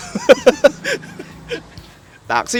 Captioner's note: laughs